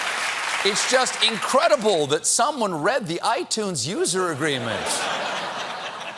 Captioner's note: laughter